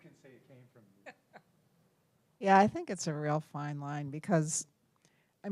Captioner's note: laugh